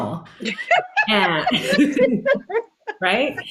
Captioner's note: all laughing